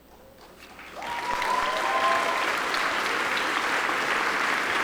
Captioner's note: audience applauding